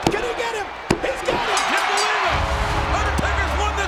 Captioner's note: bell dinging